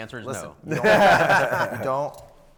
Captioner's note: panel laughs